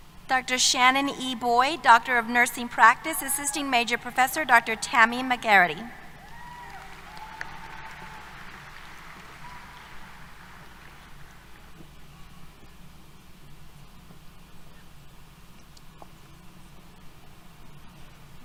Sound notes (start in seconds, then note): 6.0 applause, Cheers